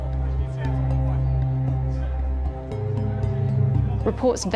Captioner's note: low panicked chatter